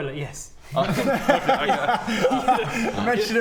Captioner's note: no-pressure giggles